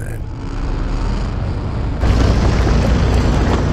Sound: car motor revving

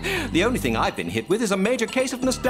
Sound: laughing

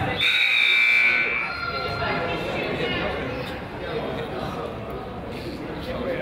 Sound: whistle blows; buzzer honks; crowd chatters

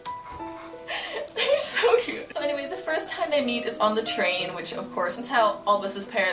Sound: laughing

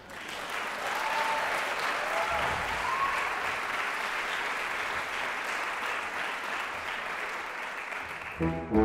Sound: audience Cheers; instrumental Music

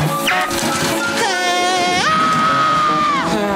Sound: screaming

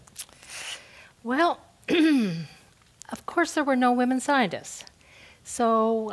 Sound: cough

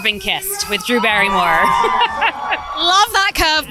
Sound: laughs

